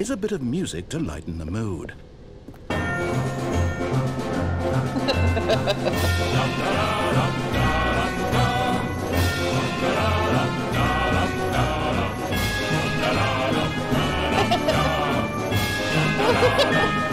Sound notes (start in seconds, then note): 2.6 ♫ jaunty adventure music ♫; 4.9 laughter; 6.1 ♫ jaunty adventure music ♫; 14.1 laughter; 14.1 ♫ jaunty adventure music ♫